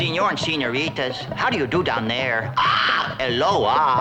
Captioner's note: squawks